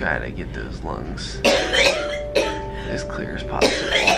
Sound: coughing

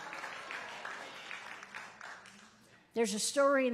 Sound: congregation applauds

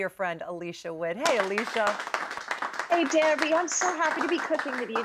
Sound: applause

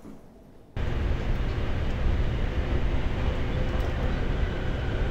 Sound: door closes; train moving along the tracks

